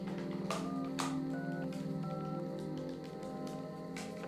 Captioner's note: phone beeping